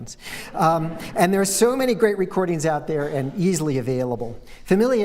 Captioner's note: laughter